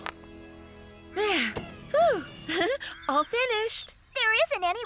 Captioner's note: giggling